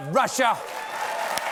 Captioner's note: applause